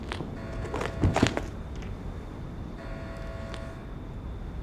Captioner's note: alarm blaring